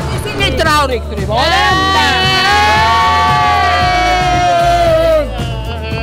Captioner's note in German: Jubel